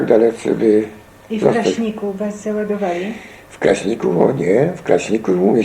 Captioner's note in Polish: kobiecy głos